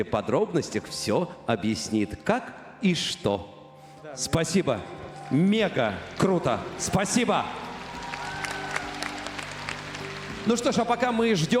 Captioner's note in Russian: аплодисменты